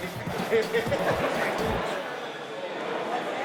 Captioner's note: laughs